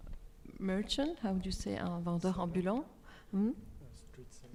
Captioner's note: speaks French